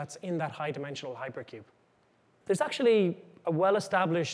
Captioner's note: none